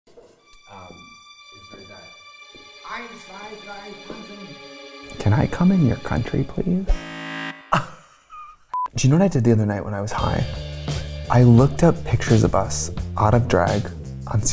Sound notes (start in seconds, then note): 0.1 people talking; 0.3 suspenseful music; 6.9 beeping; 7.7 laughing